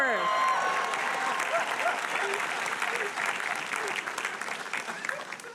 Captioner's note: audience applauding and cheering